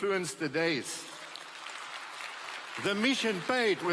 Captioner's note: applause